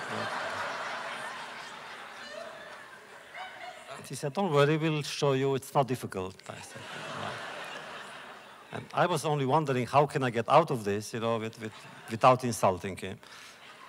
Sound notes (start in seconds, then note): 0.0 laughter; 6.6 laughter; 11.6 laughter